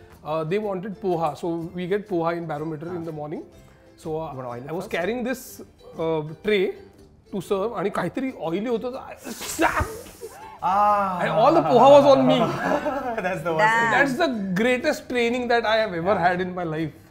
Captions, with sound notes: They wanted Poha so we get Poha in Barometer in the morning. -You got to oil it first. -I was carrying this tray to serve and there was oil strewn in the way and I-- -[Scoffs] -And all the Poha was on me. -That's the worst thing. -That's the greatest training I've ever had in my life.